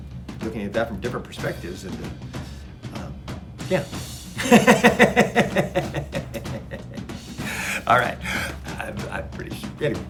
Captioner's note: laughs